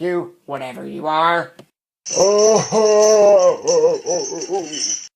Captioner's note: chains rattle, ghost groans